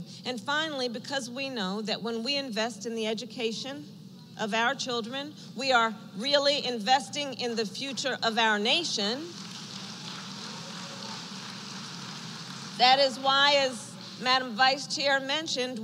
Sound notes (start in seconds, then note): 9.2 applause